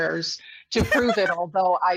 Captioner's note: laughs